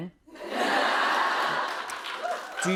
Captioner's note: laughter